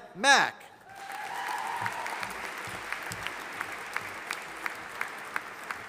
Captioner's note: audience applauding